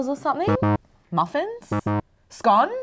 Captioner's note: buzzer beeps